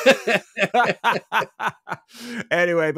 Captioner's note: both laughing